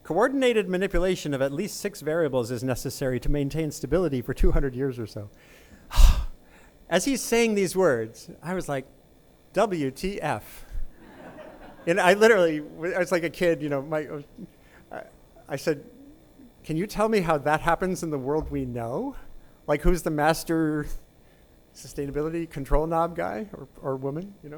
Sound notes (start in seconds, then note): 5.9 sighs